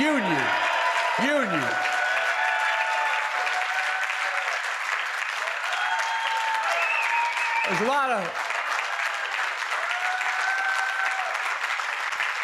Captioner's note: applause; applause